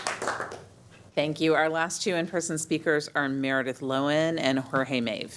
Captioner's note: applause